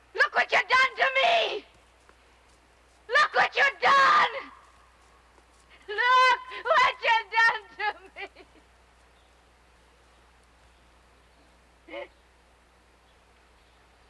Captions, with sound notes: Look whatcha done to me! Look whatcha done! Look whatcha done to me! [sobbing]